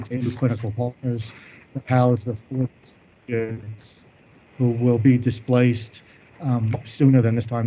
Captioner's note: audio breaks up